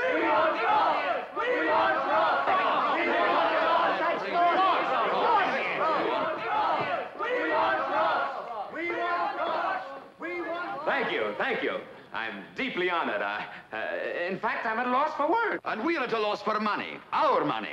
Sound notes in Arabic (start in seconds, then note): 2.4 ثرثرة الحشد